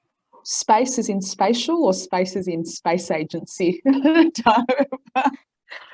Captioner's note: laughs